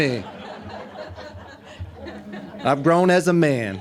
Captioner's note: audience laughing